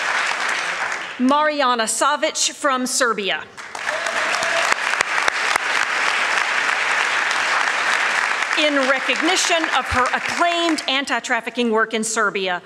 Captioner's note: applause